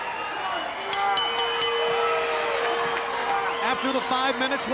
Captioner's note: match bell rings